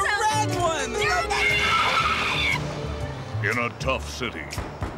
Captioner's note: tires screech